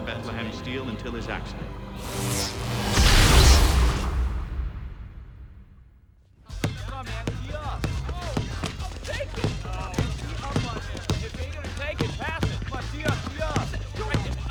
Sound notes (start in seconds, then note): 6.5 basketball bouncing